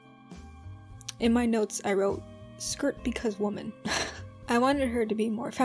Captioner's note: laughs